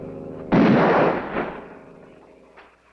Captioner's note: gunshot